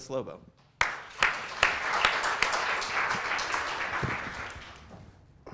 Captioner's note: audience applauds